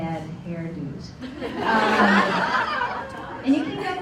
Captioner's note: laughter